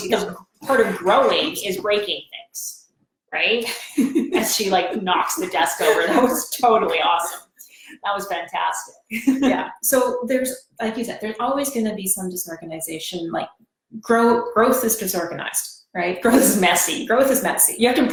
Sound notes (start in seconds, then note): 3.6 laughs